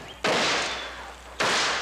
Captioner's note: shots fired